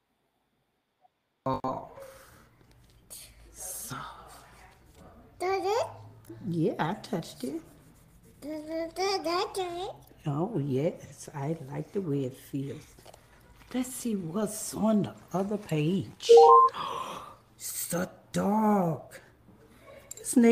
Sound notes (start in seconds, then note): 5.4 child babbling